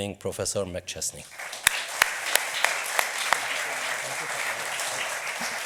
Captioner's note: audience applauds